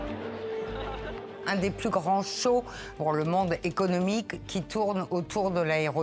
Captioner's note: tense energetic music continues; speaking French